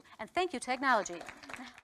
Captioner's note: applause